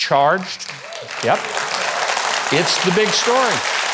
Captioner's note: audience applauding